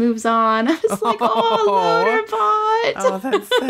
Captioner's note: laughs